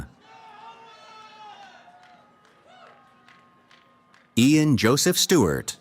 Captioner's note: cheering